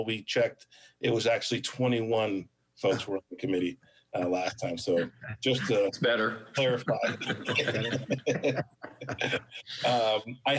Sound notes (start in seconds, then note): 7.4 laughs